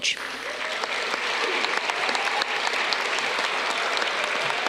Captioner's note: audience clapping